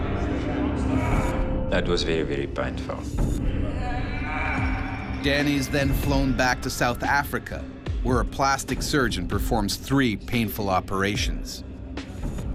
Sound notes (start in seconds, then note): 5.5 voiceover